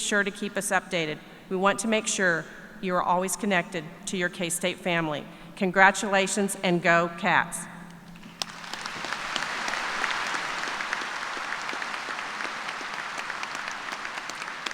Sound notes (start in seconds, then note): 8.2 applause